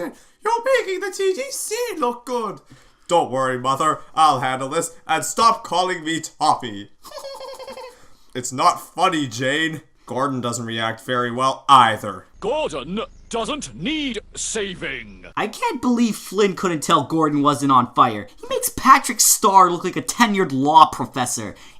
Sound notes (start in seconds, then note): 7.0 giggles